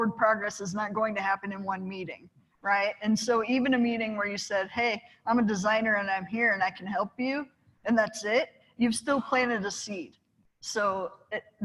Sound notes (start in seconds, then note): none